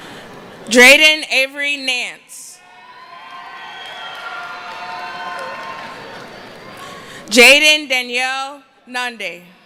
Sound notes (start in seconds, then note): 2.6 cheering